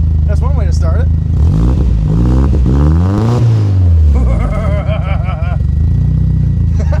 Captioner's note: engine revs; menacing laugh